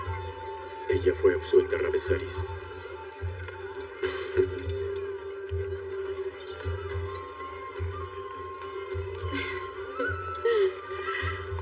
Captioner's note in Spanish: Ríe